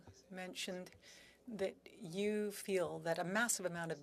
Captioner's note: speaking French